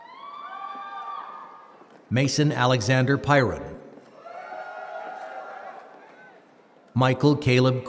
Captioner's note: applause